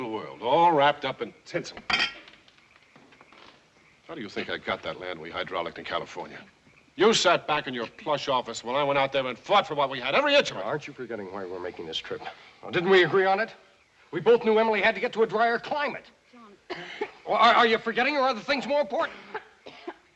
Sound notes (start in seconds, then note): 16.6 coughing